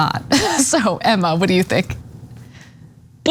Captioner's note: laugh